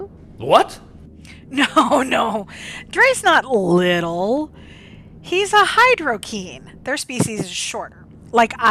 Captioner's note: laughing